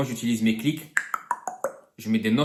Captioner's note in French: clicks